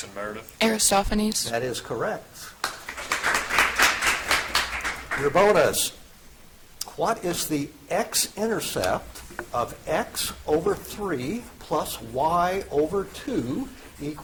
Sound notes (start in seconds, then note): 2.6 audience applauds